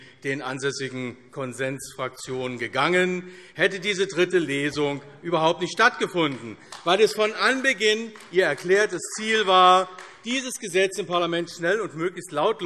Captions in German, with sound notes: den ansässigen Konsensfraktionen gegangen, hätte diese dritte Lesung überhaupt nicht stattgefunden, [Beifall AfD] weil es von Anbeginn an Ihr erklärtes Ziel war, diesen Gesetzentwurf im Parlament schnell und möglichst lautlos